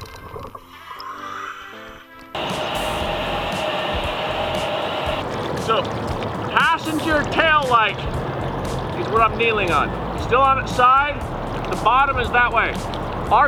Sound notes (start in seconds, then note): 2.3 winch whirs